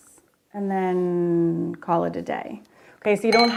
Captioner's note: brush clanks